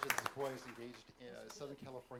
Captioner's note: applause